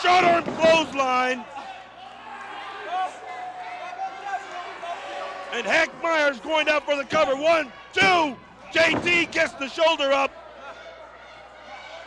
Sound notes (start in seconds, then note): 2.7 crowd cheering; 6.8 crowd chatter